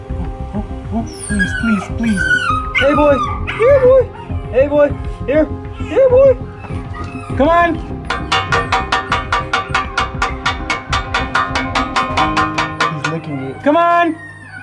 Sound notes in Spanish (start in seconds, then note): 0.6 El cachorro llora; 6.7 Golpeando el metal